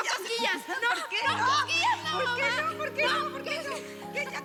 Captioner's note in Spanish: exclamaciones; risas